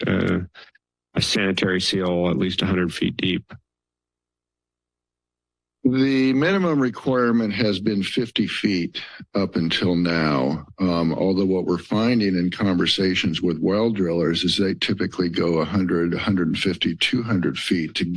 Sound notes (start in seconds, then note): 3.5 silence